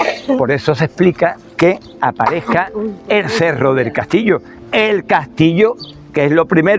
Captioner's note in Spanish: carraspeo